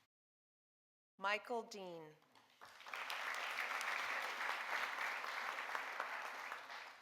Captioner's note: audience applauding